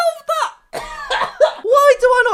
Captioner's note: coughs